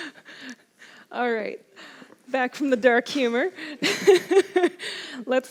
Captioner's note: laughs